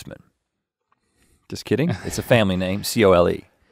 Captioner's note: chuckling